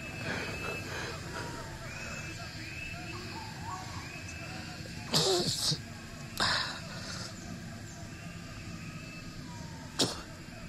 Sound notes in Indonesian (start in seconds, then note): 1.7 suara serangga dan burung